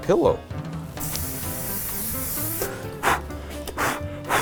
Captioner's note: spraying pan spray; blowing